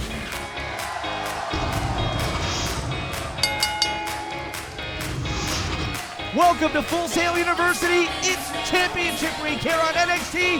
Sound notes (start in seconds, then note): 3.4 bell ringing